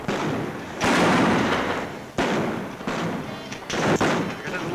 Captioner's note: guns bang